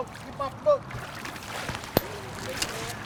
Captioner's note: clattering; fish splashing